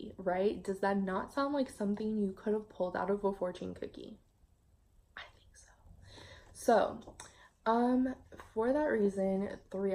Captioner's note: whispers